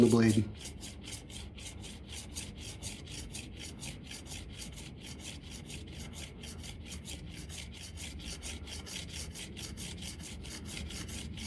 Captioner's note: scraping